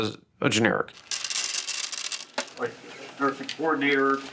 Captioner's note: capsules thudding